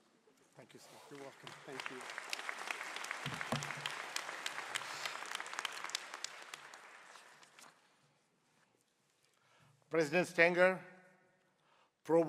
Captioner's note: applause